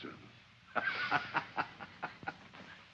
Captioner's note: laughs